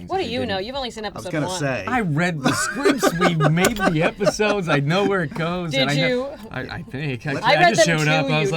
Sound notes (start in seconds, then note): 1.9 laughs